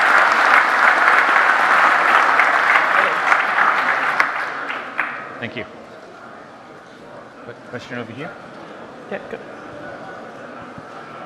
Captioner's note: applause